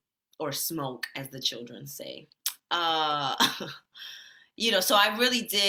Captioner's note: chuckles